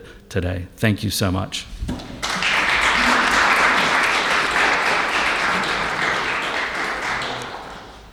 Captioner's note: applauses